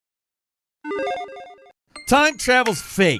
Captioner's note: electronic chiming